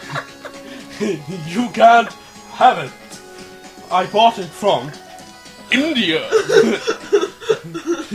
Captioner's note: laughter; laughter